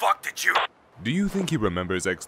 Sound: static

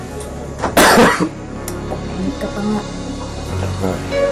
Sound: coughs

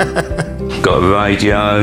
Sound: chuckles

